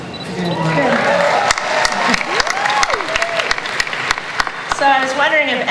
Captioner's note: audience cheering and applause